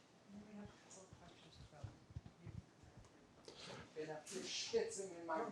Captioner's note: speaker speaking faintly